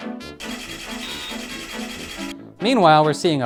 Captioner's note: mechanical whirring